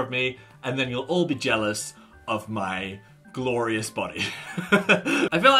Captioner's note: laughs